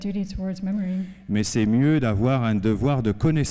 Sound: speaking french

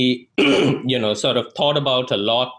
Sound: clears throat

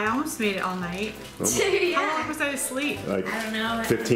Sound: laughs

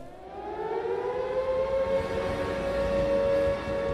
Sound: siren wailing

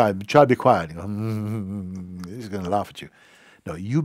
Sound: humming

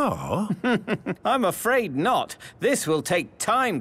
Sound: chuckling

